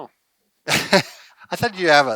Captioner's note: chuckles